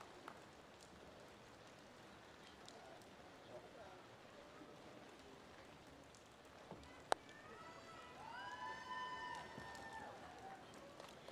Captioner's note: applause